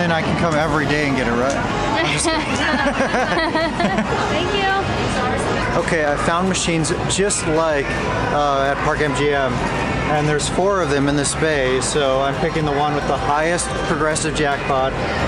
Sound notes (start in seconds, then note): 2.0 laughter